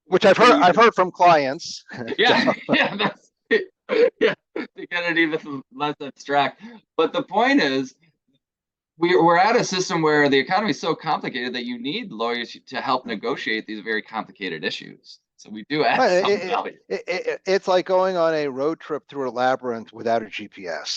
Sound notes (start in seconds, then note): 1.9 laughing